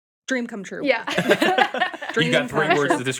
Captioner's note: group laughing